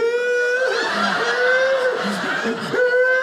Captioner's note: audience laughing